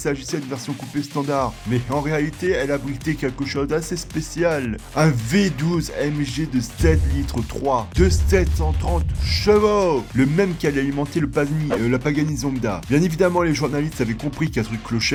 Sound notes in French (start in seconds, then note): 6.7 meme boom